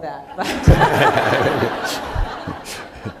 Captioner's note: laughter